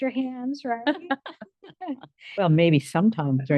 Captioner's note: board members laugh